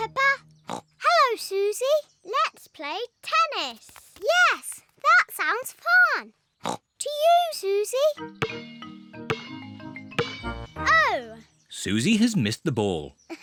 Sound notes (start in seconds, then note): 0.6 snorts; 6.6 snorts